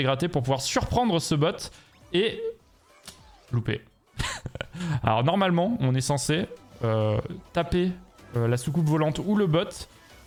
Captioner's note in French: rires